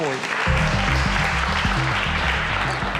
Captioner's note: applause